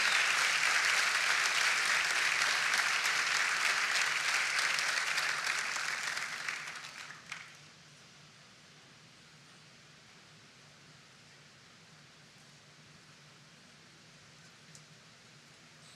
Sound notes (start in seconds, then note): 4.5 applause